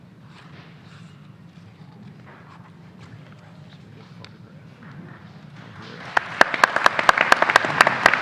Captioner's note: applause